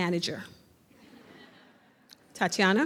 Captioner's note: audience laughs